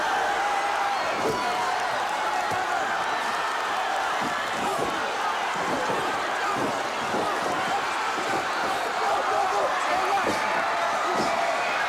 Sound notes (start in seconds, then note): 0.9 audience hollers; 8.2 muffled shouts